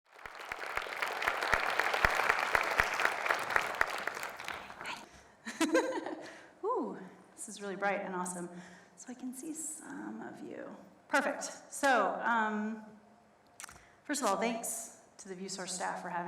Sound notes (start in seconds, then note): 0.0 audience applauds; 5.7 laughs